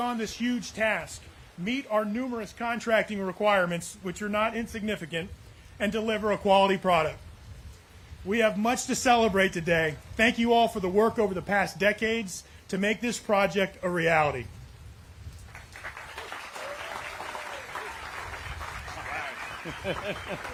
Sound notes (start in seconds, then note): 15.4 applause